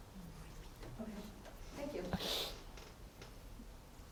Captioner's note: attendee Through Translator